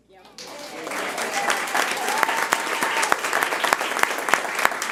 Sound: audience applauding

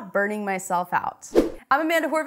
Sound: air rushes

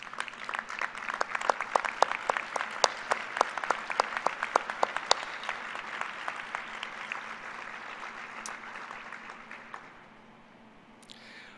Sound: applause

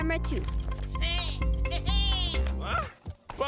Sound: bleating

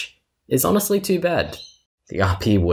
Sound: bird tweets

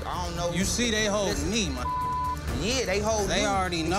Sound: beep

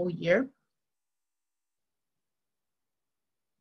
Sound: silence

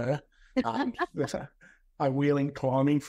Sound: both laughs

